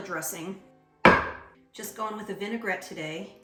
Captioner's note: cup bangs